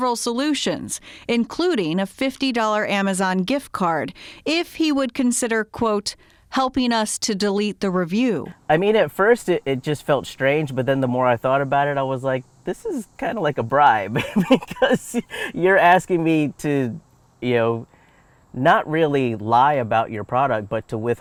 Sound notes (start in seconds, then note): 14.0 chuckles